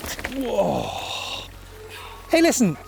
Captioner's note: groaning